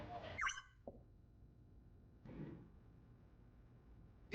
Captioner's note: Cherry beeps